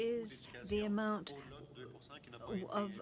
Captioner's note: speaking French